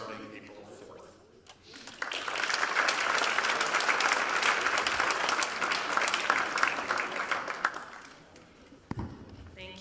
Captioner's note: applause